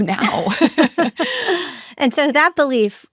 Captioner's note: both laughing